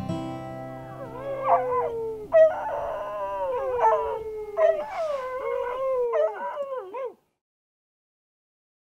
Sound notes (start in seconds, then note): 0.8 howling